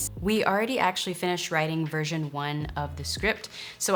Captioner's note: none